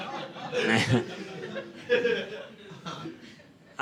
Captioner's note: audience laughing